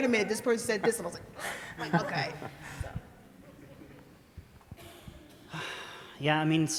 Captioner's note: laughter